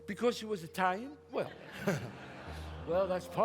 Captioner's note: audience laughs